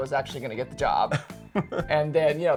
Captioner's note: laughing